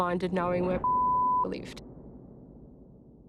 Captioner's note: beep